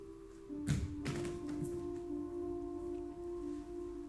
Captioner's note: body tapping floor